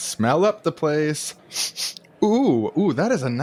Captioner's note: sniff, sniff